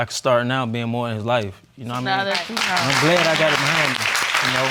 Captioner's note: applause